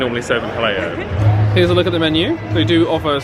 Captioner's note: laughs